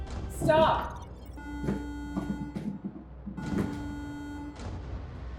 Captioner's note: alarm beeps steadily